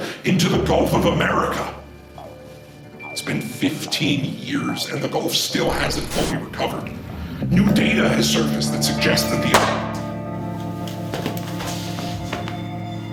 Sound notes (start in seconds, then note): 9.5 gunshot; 9.6 body thuds